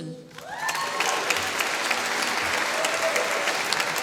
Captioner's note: applause